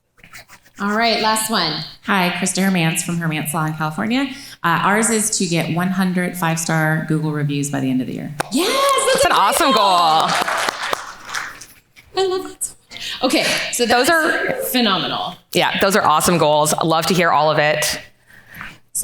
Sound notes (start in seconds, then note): 10.3 audience claps